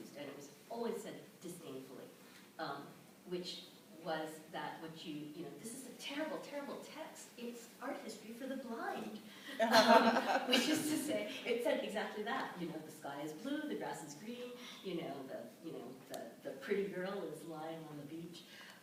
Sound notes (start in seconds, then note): 9.5 laughter